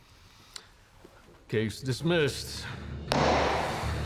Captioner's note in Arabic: يضرب المطرقة; يصفق بالأيدي